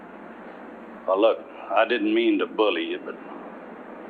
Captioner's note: none